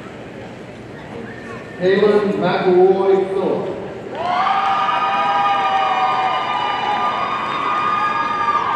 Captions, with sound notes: Kalynn McElroy Philipp, (audience cheering)